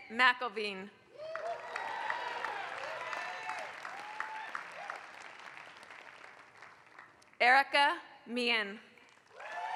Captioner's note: applause; applause